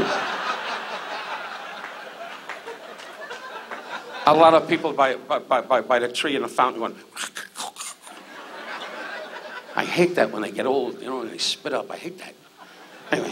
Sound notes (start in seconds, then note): 0.0 audience laughs; 7.2 choking